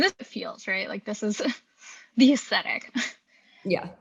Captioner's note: chuckles